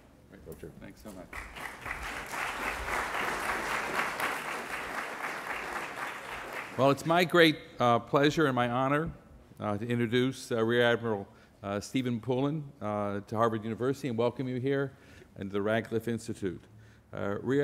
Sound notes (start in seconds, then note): 1.3 applause